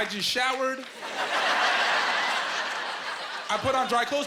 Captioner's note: laughing